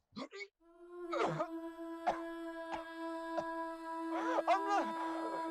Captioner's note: coughing and and choking